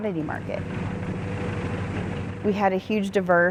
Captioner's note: harvester revving